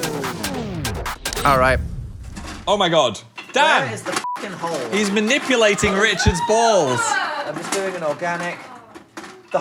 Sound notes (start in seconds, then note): 0.0 upbeat music; 4.2 beep